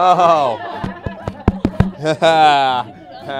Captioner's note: tapping on microphone